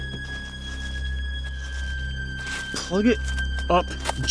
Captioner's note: wrappers rustling